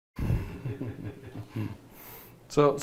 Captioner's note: laughing